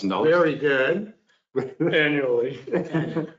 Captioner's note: all laugh